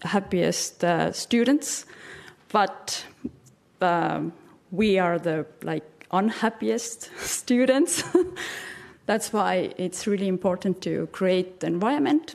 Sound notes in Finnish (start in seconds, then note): 8.0 chuckles